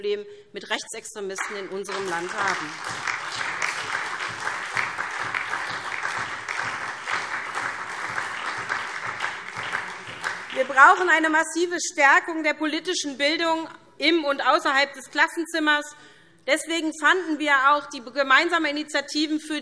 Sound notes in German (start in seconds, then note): 3.7 Beifall SPD und DIE LINKE